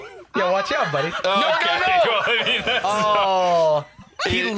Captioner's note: laughing